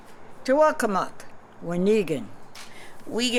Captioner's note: non-english speech